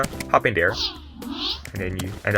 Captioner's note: Portal whoosing sounds